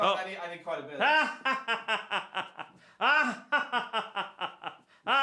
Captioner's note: laughs